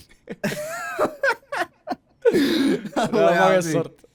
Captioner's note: laughing